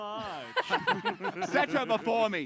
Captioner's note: laughs